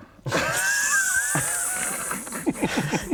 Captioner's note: petty but fair snickering